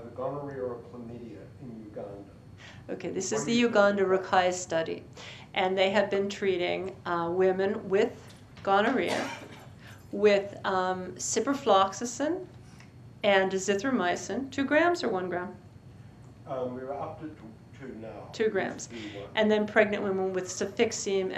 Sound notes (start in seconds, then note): 4.3 non-english